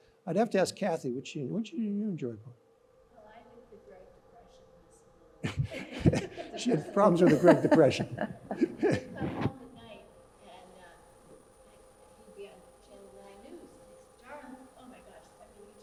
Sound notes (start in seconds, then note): 5.4 audience laughs